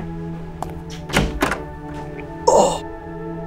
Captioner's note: Door closes